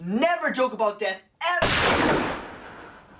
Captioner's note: gun shot